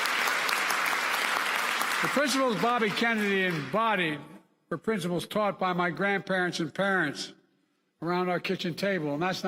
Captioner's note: applause